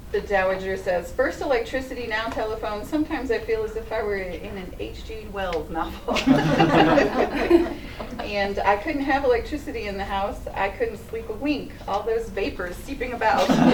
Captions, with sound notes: The Dowager says, "First electricity, now telephone. Sometimes I feel as if I were in an H.G. Wells novel." [laughter]. "And I couldn't have electricity in the house. I couldn't sleep a wink. All those vapors seeping about."